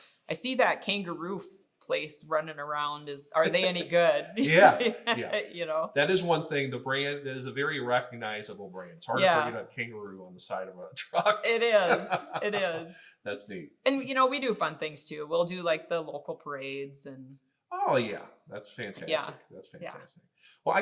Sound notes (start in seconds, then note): 4.4 both laughing; 11.0 laughing